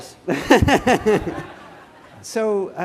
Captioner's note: laughter